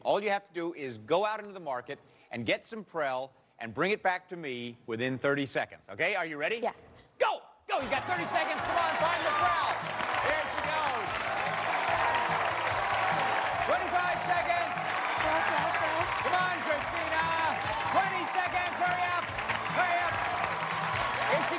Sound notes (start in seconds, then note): 12.4 cheers and applause